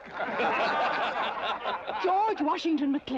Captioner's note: crowd laughing